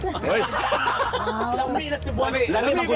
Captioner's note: laughter